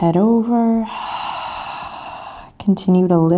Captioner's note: exhaling deeply